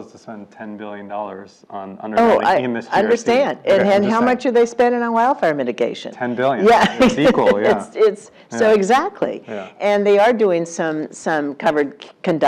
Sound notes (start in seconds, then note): 6.6 laugh